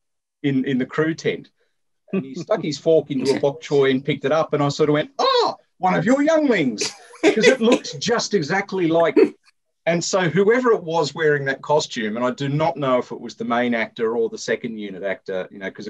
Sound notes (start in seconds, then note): 6.8 laughter